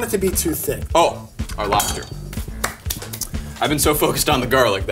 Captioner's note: hands clap